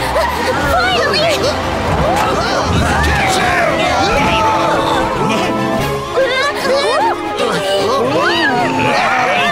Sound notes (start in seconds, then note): 5.8 Tayo shrieks nervously